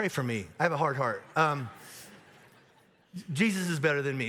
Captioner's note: audience laughs